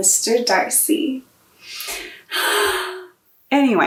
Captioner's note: dramatic sigh